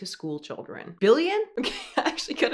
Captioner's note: laughs